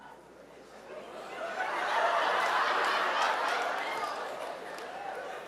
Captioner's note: audience laughing